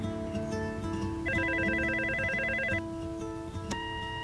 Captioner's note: ring